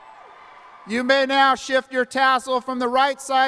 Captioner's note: cheering and applause